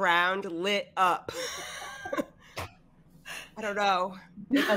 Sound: all laughing

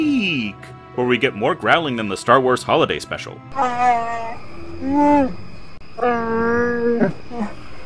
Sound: Wookiee growling

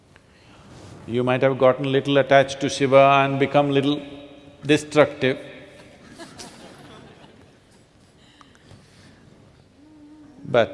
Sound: few laugh

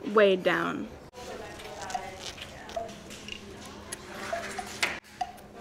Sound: classroom chatter

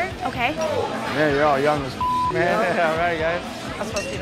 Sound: beep

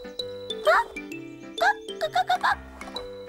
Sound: gasps; clucks

